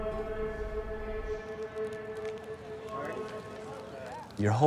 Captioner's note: fire crackling